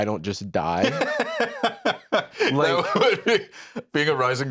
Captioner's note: laughs